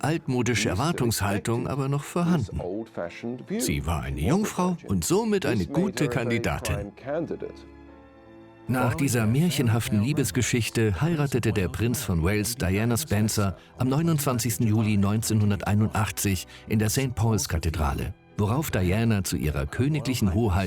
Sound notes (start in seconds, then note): 7.7 voiceover